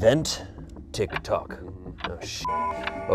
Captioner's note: beep